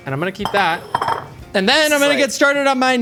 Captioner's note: bowl clinking